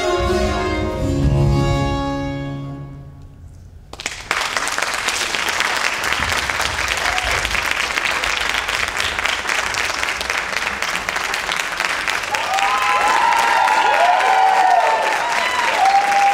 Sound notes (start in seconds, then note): 4.0 audience applauds; 12.5 audience cheers